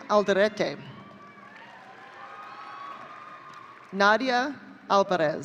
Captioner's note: audience cheering